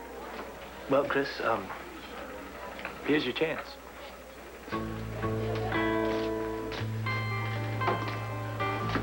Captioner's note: door opens